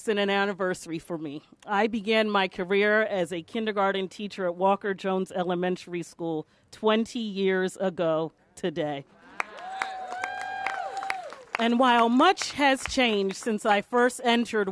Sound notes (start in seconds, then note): 9.2 applause